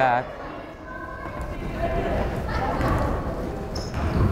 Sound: crowd chattering

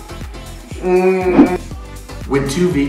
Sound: groans

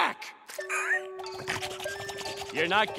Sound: squealing and panting

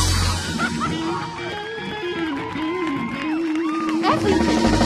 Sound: audience applauds

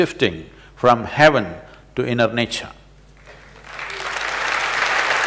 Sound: applause

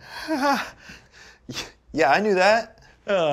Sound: weakly laughing

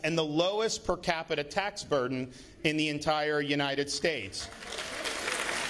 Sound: applause

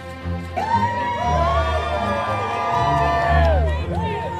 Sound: crowd cheering

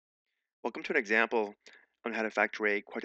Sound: voiceover

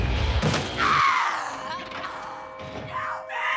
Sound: screaming

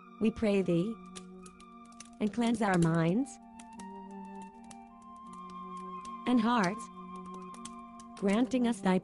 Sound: noise of fire burning leaves and acorns

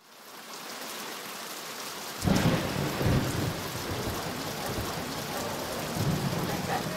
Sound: rain falling; thunder cracking

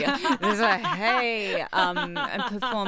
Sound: laughs

